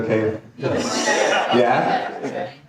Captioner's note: audience laughing